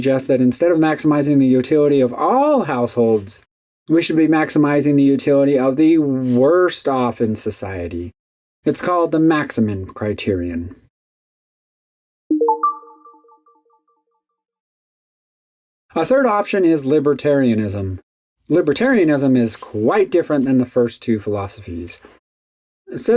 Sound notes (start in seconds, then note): 12.3 electronic dinging